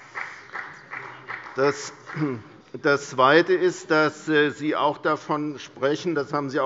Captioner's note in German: Beifall bei Abgeordneten der CDU und der FDP